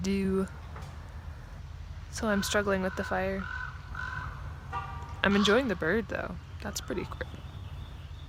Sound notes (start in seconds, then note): 0.0 bird; 2.2 bird; 4.6 car horn